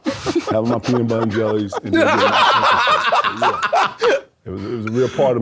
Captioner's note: both laughing